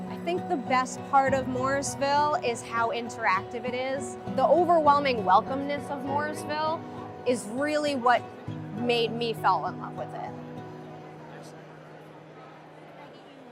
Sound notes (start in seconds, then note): 10.5 crowd murmuring